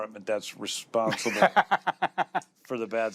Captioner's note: laughs